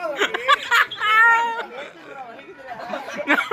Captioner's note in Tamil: சிரிப்பு